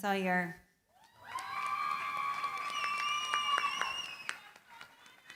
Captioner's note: cheering, applause